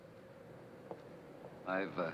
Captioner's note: slow footsteps